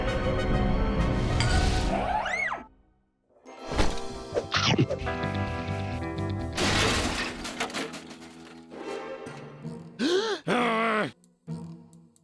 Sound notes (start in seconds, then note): 6.6 clattering noise; 10.0 gasp; 10.4 loud grumbling